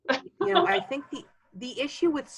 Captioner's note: laughing